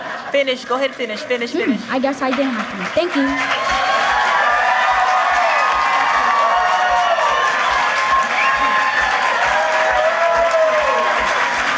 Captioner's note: laughter